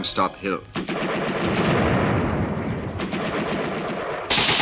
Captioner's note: guns firing rapidly